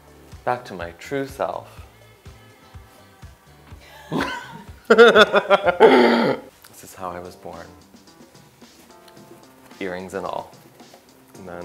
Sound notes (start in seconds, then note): 4.8 laughs